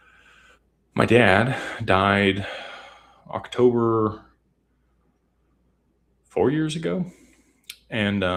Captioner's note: sighs and gasps